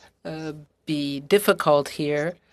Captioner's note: speaking French